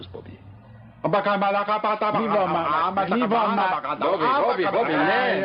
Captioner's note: chanting gibberish